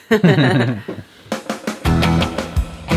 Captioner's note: laughing; upbeat rock music